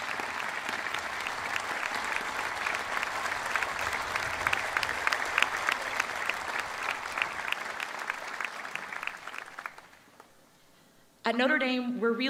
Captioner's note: applause